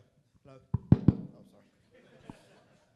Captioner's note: knocking; laughing